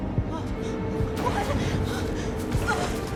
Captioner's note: gasping